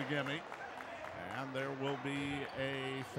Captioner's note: clapping